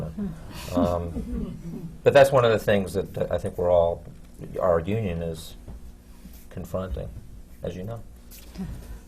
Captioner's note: laughter